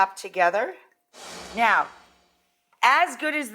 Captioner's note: air whooshes